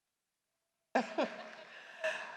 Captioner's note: laughter